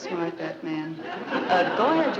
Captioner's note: audience laughing